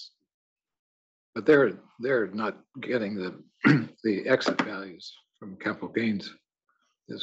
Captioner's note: cough